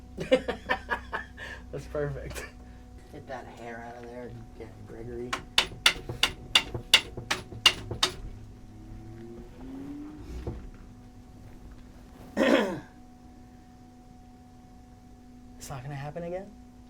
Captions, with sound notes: (laughing) That's perfect. Get that hair outta there, Gregory. (tapping easel) (clears throat) It's not gonna happen again?